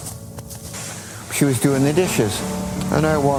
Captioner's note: wind and seagulls